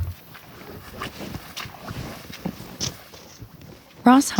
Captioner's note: water splashes